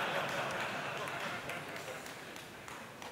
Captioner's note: laughter